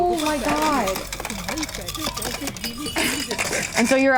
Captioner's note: ice clanking